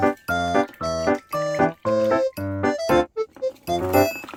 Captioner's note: water sound